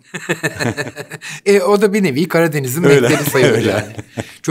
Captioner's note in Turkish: Gülüyor; Gülüyor